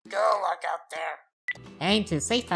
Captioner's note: phone beep